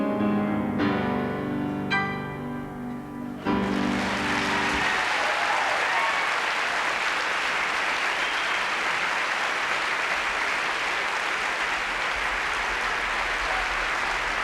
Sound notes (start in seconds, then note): 0.1 song ends; 3.4 applause and cheering